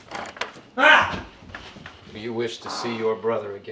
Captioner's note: Tim cries out